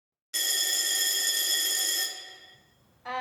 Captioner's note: loud Buzzer